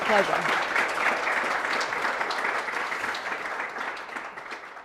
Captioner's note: audience applauding